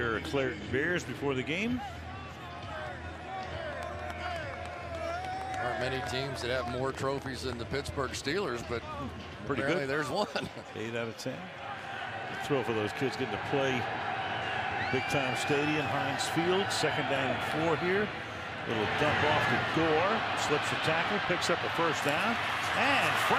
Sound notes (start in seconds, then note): 4.0 cheering